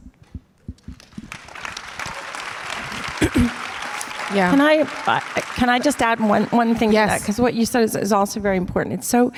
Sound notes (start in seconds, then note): 0.9 audience applause